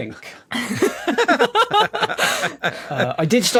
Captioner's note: laugh